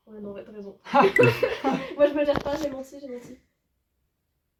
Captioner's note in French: rires